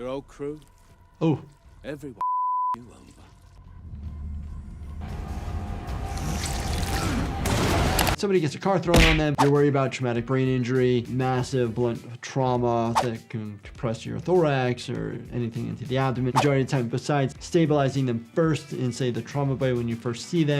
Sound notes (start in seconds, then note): 2.2 beep; 4.1 power whirring; 7.2 car crashing